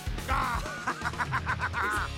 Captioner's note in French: rires